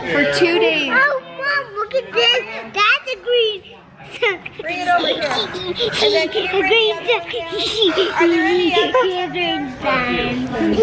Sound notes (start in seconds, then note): 3.4 giggles